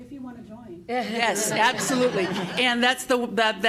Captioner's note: laughter